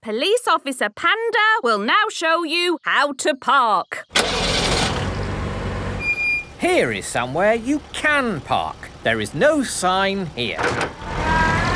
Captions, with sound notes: - Police Officer Panda will now show you how to park. (car engine starting) - (breaks squeaking) - Here is somewhere you can park. There is no sign here.